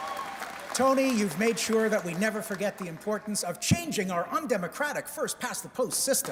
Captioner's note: applause